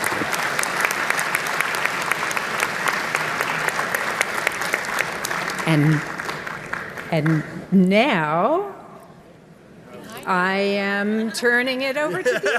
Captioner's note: applause